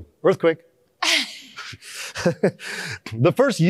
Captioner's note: laughter